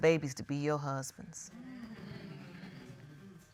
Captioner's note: audience murmuring